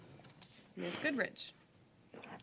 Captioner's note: speaking French